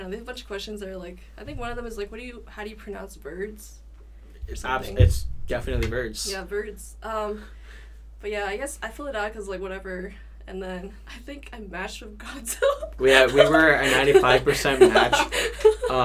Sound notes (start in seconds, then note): 13.1 laughs